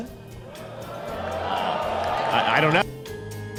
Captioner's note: mixed applause